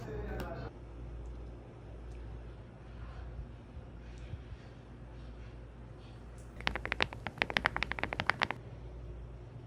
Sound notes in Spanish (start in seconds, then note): 6.6 tapping